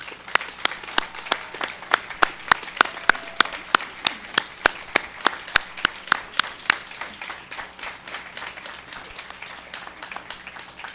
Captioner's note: cheers and applause